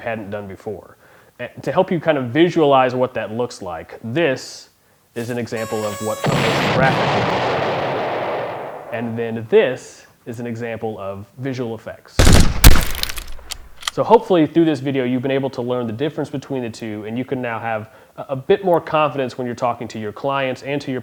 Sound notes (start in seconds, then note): 7.8 explosion; 7.8 horn; 12.2 gunshots; 12.3 breaking glass